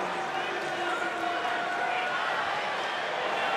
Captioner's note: crowd chatter